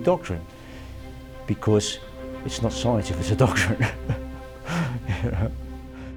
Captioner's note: laughs